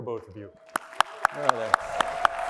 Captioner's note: applause